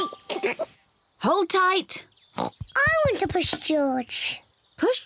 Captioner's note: oinks